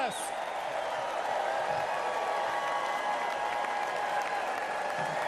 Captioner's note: applause